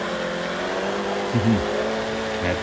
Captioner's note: giggles